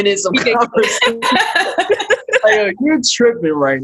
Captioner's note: laughing